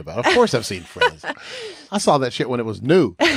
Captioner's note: chuckles